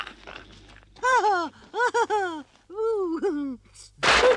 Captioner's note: Toad giggles